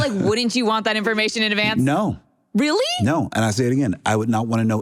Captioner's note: laughter